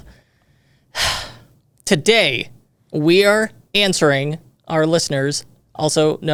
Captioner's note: sighs